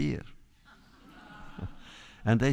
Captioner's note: laughter